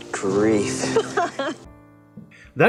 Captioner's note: laughter